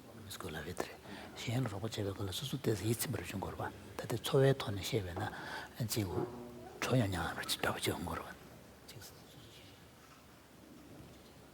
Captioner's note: foreign Language